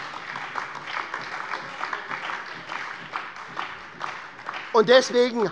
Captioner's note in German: Heiterkeit und Beifall bei der SPD